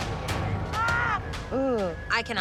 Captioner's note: screaming